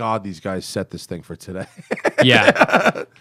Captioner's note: laughter